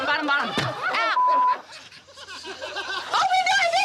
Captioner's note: beep